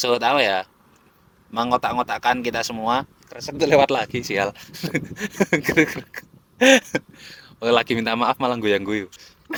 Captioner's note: laughs